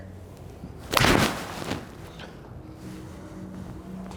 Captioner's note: thud